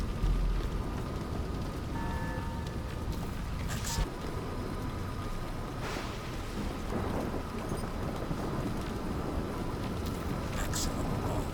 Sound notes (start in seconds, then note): 1.7 beeping